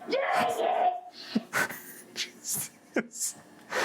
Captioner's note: chuckles